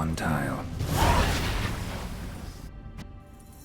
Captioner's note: barrier fizzles